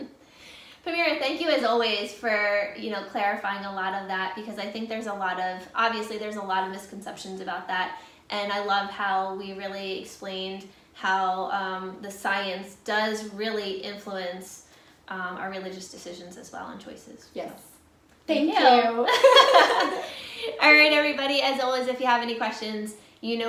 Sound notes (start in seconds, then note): 19.1 both laughing